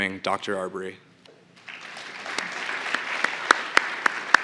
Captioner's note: applause